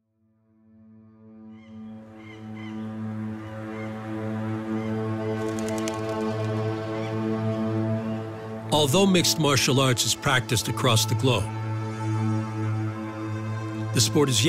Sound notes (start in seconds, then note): 2.2 bird squawking; 3.0 gentle instrumental music